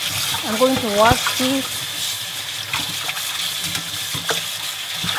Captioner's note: water sloshing